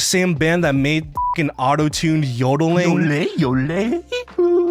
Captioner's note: beeps; accessiblefunky yodeling